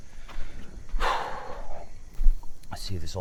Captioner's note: Pete sighs